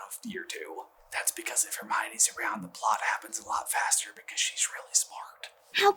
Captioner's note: stage whisper